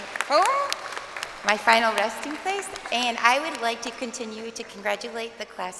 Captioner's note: crowd applauding